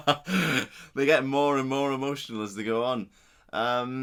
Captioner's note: laughs